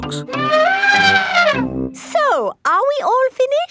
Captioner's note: trumpeting